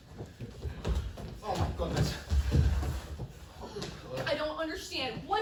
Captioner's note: heavy breathing